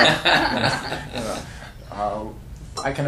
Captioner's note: laughter